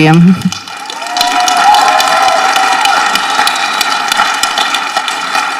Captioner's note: people applauding and cheering